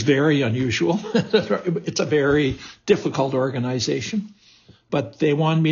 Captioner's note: laughs